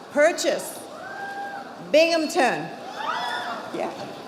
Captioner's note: audience applauding